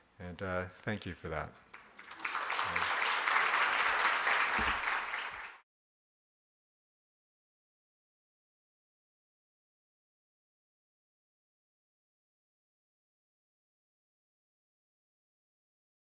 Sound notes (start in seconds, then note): 1.7 audience clapping